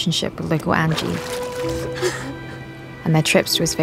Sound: water splashing, giggling

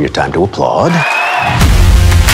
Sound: cheering

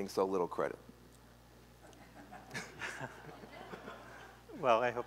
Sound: laughter

